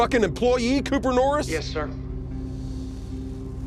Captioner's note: on phone